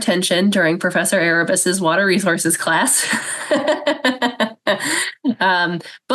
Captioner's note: laughs